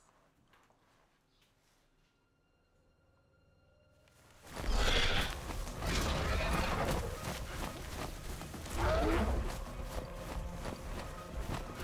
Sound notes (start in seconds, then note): 2.0 eerie music; 5.7 dinosaur growls; 7.6 climactic music